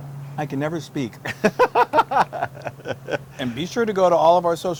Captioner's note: laugh